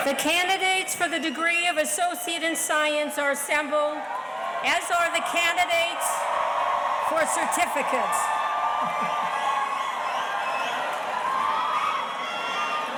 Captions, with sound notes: - The candidates for the degree of associate in science are assembled, as are the candidates-- (audience cheers) for certificates. (chuckles)